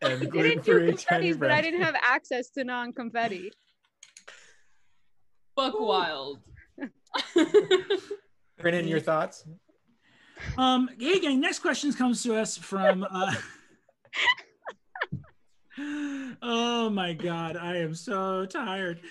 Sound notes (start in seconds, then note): 7.1 laughs; 12.8 everyone laughs; 15.8 a deep, pained sigh